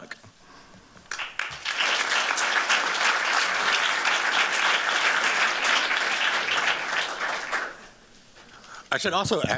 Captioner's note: applause